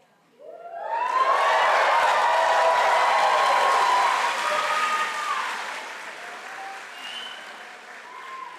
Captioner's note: applause